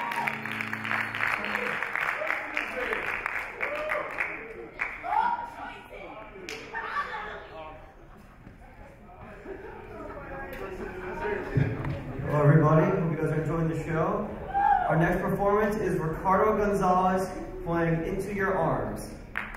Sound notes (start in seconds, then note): 0.0 audience cheer; 0.0 audience applaud; 5.6 audience chatter